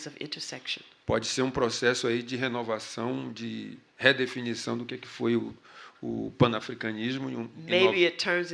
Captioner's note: speaking portuguese